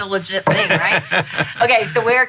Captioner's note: laughing